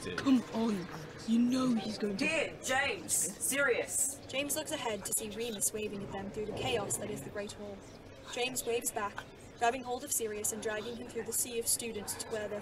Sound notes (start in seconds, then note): none